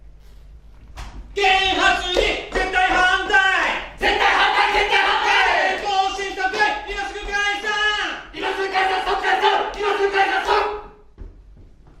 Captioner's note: shouting against constitutional amendment